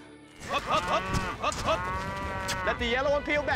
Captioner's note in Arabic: خوار الأبقار